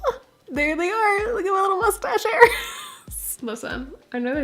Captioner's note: laugh